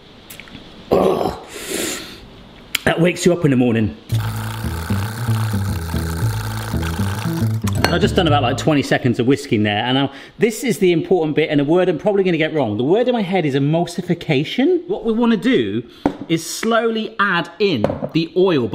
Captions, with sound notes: (grunts) That wakes you up in the morning. (whisk clacking at high speed) (bright jazz music) I've just done about 20 seconds of whisking there. And this is the important bit and a word I'm probably gonna get wrong. The word in my head is emulsification. What we wanna do is slowly add in the oil,